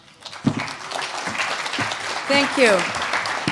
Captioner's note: applause